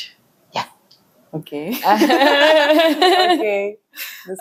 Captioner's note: laughs